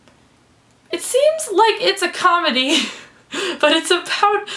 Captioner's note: laughs